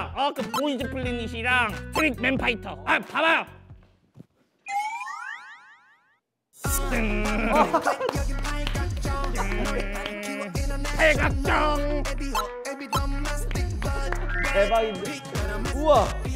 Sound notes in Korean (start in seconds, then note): 9.3 꺄르르르